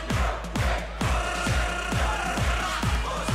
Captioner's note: fans chanting